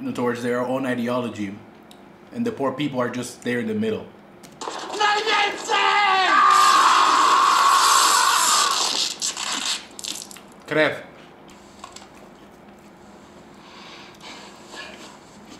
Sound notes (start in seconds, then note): 6.4 yelling in foreign language